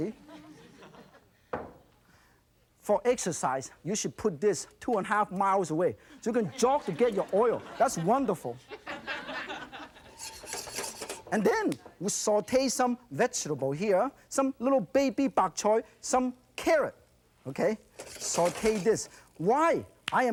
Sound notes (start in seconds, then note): 0.2 audience laughs; 8.7 audience laughs; 10.0 metal stirring